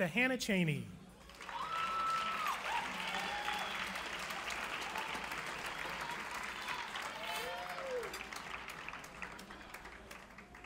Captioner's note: clapping